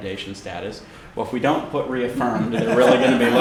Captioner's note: laughter